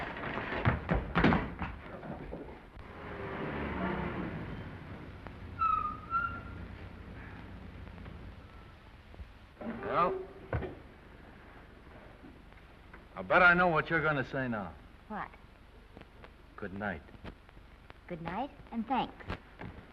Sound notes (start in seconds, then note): 0.1 feet stumbling; 2.8 car rumbles softly; 5.1 brakes squeal